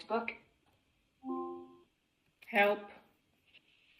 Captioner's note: device chimes